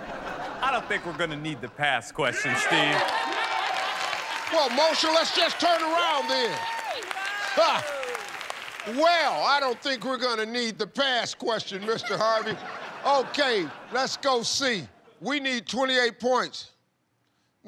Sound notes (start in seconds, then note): 3.2 chuckles